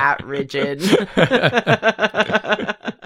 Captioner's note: laughter